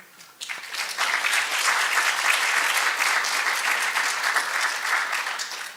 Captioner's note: applause